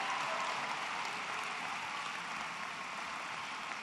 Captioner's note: applause